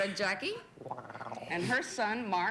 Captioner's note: purrs